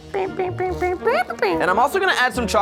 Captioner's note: vocalizing